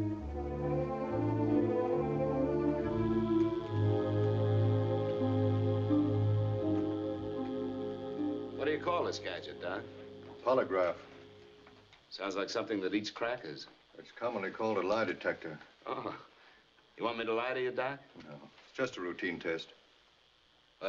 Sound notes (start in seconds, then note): 2.7 electric Current Buzzing